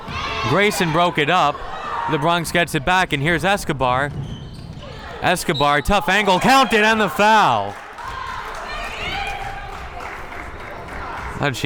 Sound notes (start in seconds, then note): 5.9 whistle tweeting; 8.4 crowd members clapping